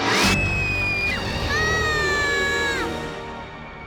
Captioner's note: screams